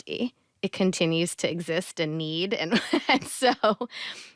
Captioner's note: chuckles